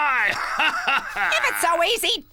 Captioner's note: laughing